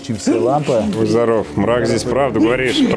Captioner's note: sneezes